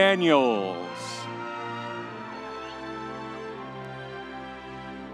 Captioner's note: audience cheering